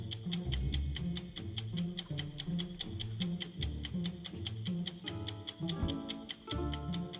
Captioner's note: clock ticking